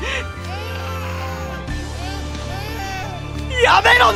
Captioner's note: crying